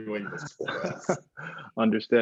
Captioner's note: laughs